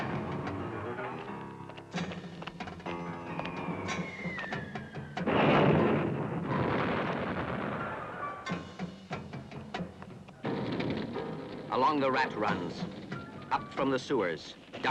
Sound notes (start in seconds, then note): 0.0 ominous music; 3.2 shell whistles; 5.2 explosion